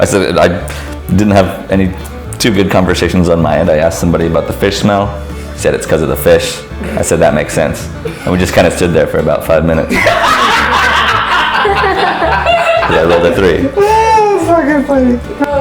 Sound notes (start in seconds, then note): 9.9 laughter; 13.9 laughs